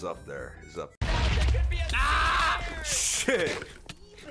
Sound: explosion, Foolish yelling unintelligibly; screams; laughing

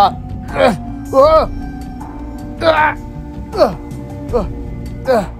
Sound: struggle sounds

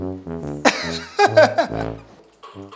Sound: laughter

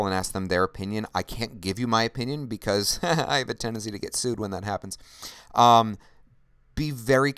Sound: laughter

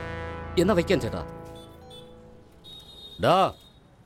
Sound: vehicle honking

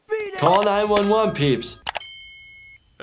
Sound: phone rings; microwave dings

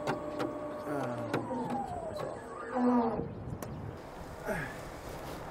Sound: machine winds to a stop

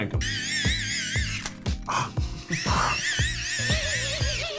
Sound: winding noise

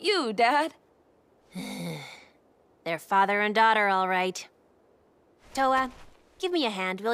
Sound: sighing

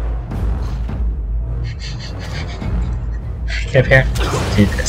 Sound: laughter

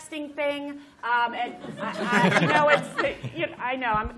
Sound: laughter

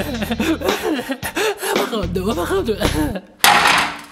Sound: crying

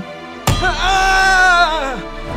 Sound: hammer strike

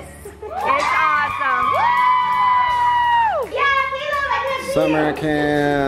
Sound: kids cheering

